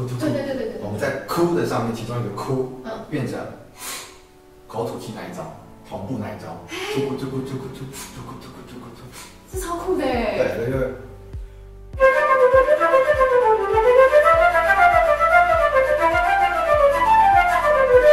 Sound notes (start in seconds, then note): 3.7 inhale & exhale by mouth